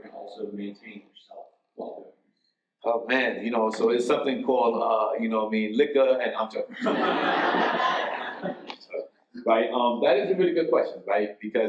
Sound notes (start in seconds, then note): 6.7 audience laughs